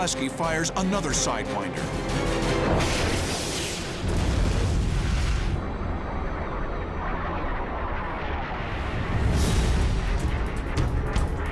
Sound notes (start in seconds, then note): 8.2 explosion